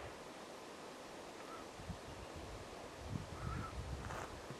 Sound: birds chirping

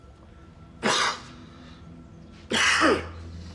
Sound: coughing; eerie music

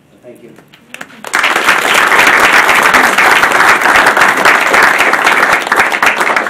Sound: audience applauding

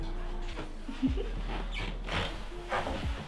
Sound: light laughter

